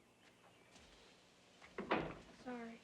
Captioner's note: door closes